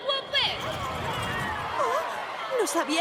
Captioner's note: cheering